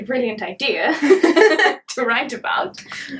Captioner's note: both laugh